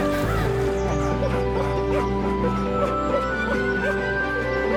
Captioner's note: barking; rousing music; crying; rousing music continues